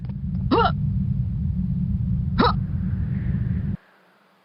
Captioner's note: distinctly more feminine sounding jump effort